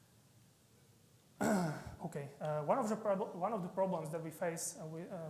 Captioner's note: clears throat